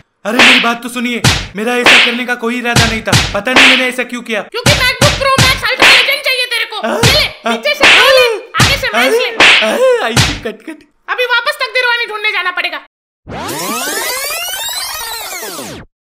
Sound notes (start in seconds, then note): 6.9 slaps and punches; 13.4 reverse music